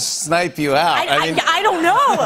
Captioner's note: laughter